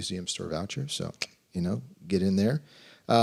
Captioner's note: click